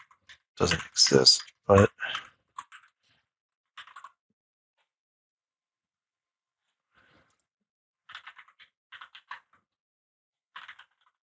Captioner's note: typing